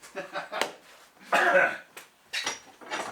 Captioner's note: laughter